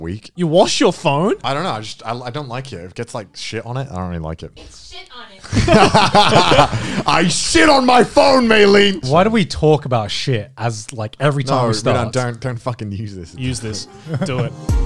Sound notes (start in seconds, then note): 5.4 everyone laughs